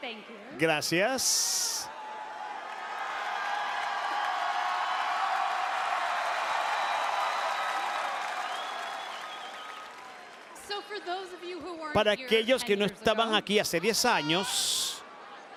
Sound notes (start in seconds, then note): 2.4 applause